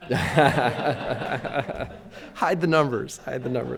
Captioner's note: everybody laughing